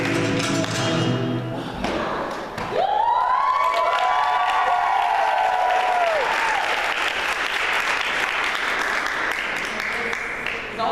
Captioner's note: applause